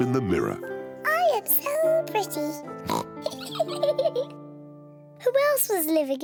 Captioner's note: oinks and giggles